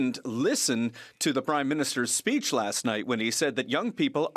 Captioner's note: speaking French